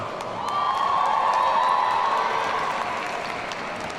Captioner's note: audience cheering